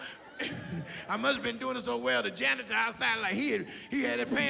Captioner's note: laughs